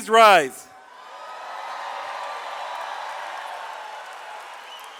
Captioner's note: audience cheers